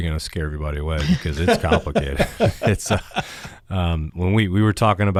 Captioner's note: panelists laughs